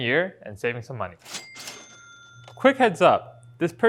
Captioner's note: cash register dings